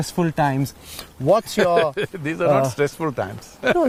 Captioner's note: laughs